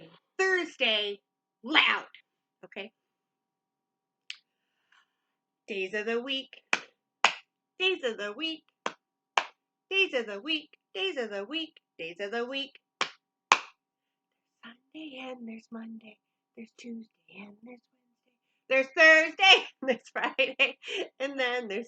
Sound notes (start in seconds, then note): 7.2 clap, clap; 7.2 clap,clap; 13.5 clap, clap; 14.4 whisper; 20.5 laughs